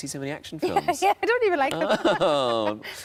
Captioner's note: laughs